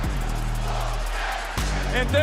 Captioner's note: crowd chants